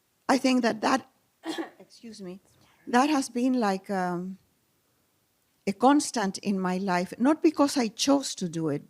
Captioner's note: clears throat